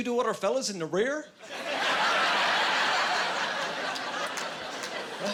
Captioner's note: laughing